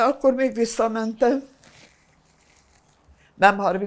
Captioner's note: wiping nose